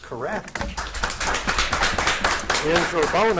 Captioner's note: audience applauding